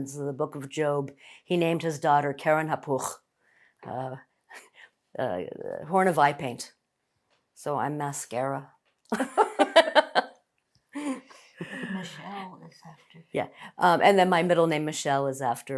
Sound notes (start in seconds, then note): 9.2 laughing